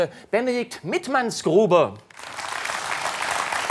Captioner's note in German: Applaus